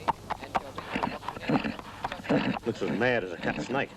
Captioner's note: horse whickering